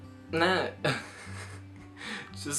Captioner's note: laughs